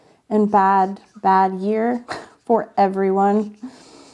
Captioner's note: laughs